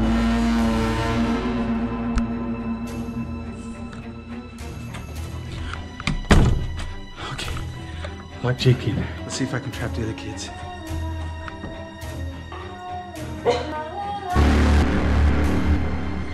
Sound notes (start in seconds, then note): 0.1 thrill music; 6.0 door closes